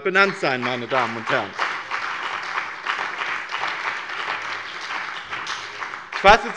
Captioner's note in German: Beifall bei dem BÜNDNIS 90/DIE GRÜNEN und der CDU